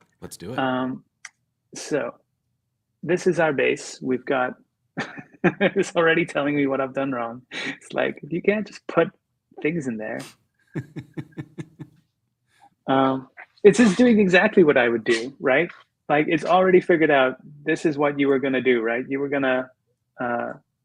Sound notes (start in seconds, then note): 10.7 laughter